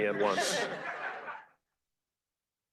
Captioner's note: laughter